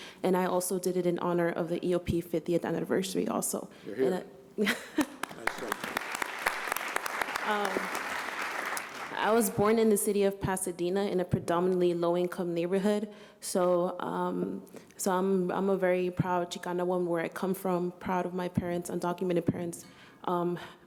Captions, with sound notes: And I also did it in honor of the EOP 50th anniversary also. >> Yeah. [ Applause ] >> I was born in the city of Pasadena in a predominantly low income neighborhood. So -- so I'm -- I'm a very proud Chicana woman where I come from. Proud of my parents, undocumented parents.